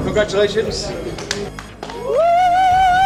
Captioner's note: cheering